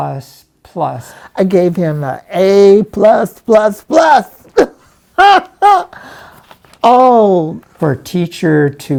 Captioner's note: giggling